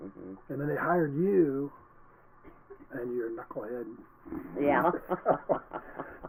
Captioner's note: laughing